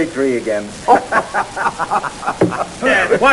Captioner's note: laughter